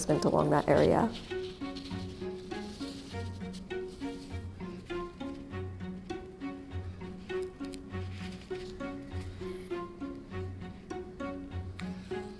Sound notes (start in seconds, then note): 0.0 fabric rustling; 1.3 classical music